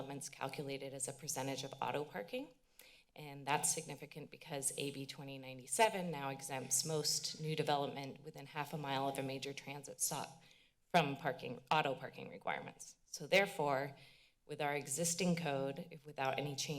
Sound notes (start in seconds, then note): none